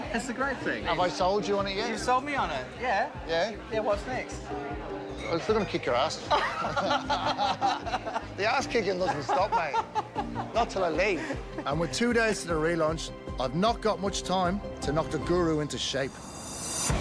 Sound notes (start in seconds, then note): 6.2 both laugh; 8.9 laughs; 16.8 exciting music